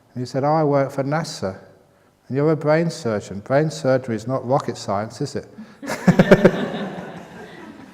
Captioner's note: laughter